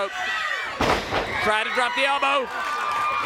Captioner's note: crowd cheering